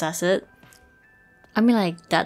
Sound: awkward pause lmao

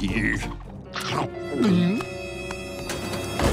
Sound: gulping

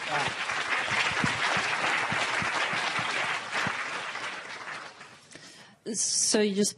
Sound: applause

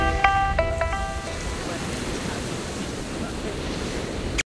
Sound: waves crash

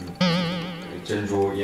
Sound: stammering

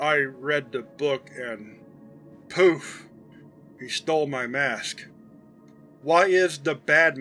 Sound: slightly slurred

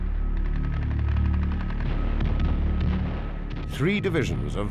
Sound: guns firing

